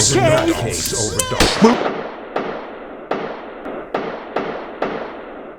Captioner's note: gunshots echoing